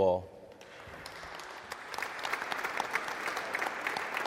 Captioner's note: audience applauds